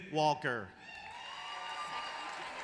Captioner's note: applause